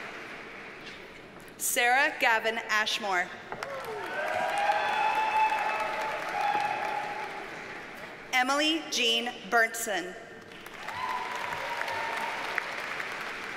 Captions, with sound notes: Sarah Gavin Ashmore. (audience cheers and applauds) Emily Jeanne Berntsen. (audience cheers and applauds)